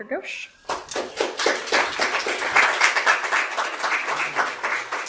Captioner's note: audience applause